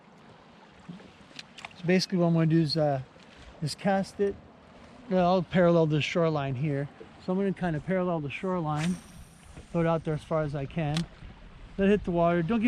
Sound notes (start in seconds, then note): 8.7 rod whipping; 10.5 reel spinning